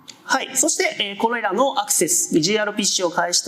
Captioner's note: speaking japanese